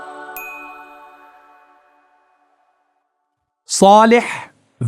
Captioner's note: bell dinging